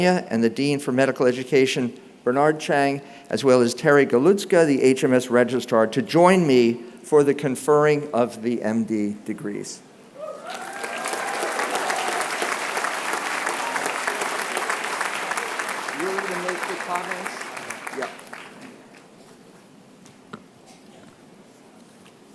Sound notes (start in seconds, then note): 10.4 applause